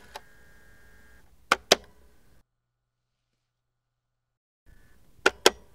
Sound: clicking answering machine

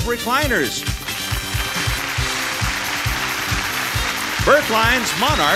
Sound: audience applauds

